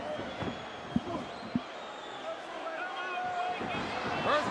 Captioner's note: crowd murmuring